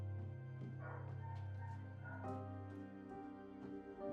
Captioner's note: dog barking outside